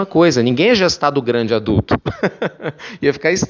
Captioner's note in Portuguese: risos